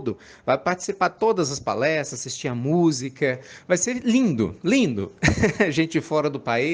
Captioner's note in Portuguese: Risos